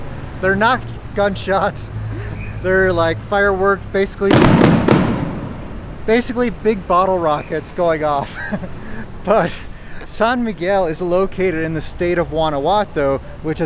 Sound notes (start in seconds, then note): 4.2 fireworks exploding